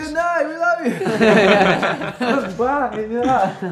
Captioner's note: band members laughing